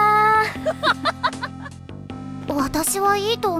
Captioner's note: laughter